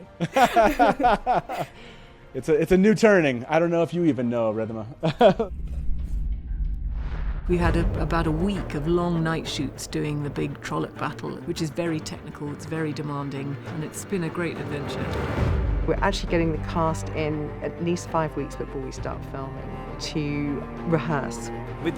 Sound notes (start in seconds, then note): 0.0 all laughing; 5.0 laughs; 6.1 upbeat music